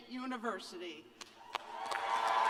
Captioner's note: cheers and applause